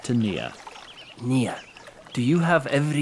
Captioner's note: quietly